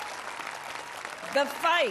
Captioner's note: cheering